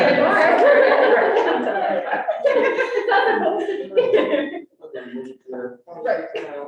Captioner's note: all laughing